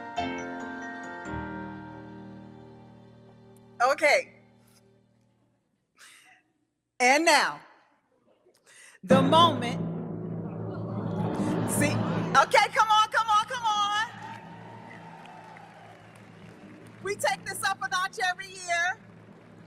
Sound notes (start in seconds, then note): 10.3 drum rolling; 13.6 audience applauding; 14.9 audience cheering